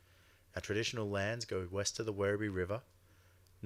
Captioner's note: speaks Indigenous language